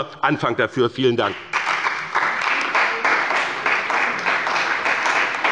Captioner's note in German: Beifall bei dem BÜNDNIS 90/DIE GRÜNEN und der CDU